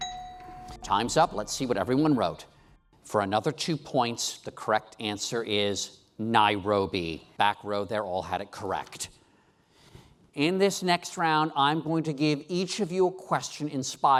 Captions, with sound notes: (bell dings) Time's up, let's see what everyone wrote. For another two points, the correct answer is Nairobi. Back row there all had it correct. In this next round, I'm going to give each of you